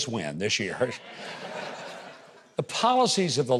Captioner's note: audience laughing